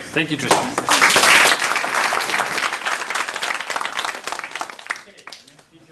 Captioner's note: applause